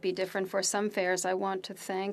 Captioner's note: speaking French